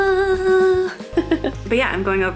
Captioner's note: laughs